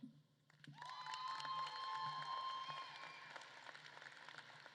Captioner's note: audience claps and cheers